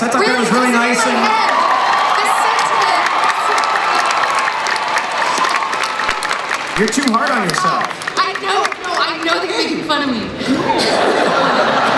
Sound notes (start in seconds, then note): 2.9 crowd cheering